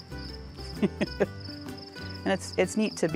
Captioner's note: chuckles